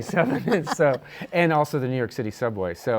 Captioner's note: laughs